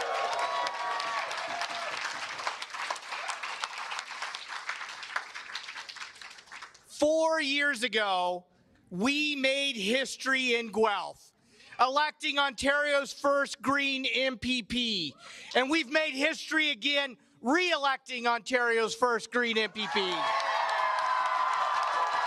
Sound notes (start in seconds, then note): 2.8 cheers and applause